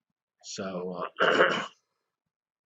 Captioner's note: cough